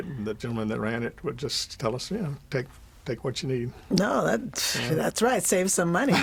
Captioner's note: laughs